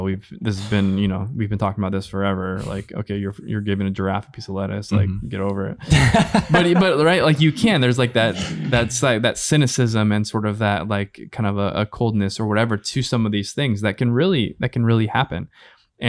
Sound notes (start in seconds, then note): 5.8 laughs